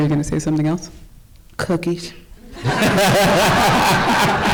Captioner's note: audience laughs